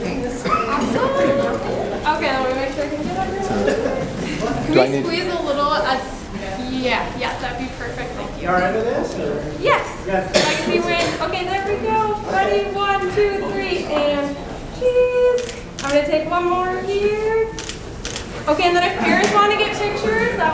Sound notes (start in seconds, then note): 15.3 camera clicks; 17.5 camera clicks